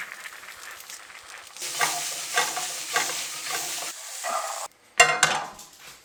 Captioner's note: sound of food cooking